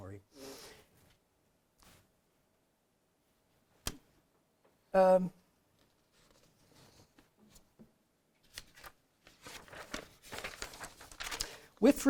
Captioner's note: pause, pages turning